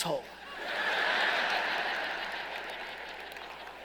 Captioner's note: laughing